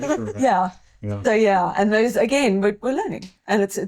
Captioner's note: laughing